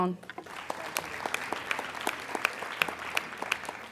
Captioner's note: applauding